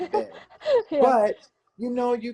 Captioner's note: chuckles